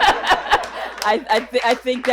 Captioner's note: all laughs